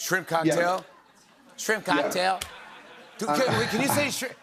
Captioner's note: laughter